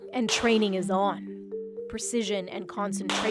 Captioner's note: gunshots